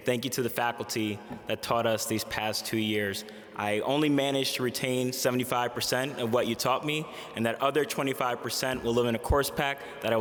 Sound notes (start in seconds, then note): none